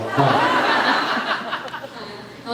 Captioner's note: laughs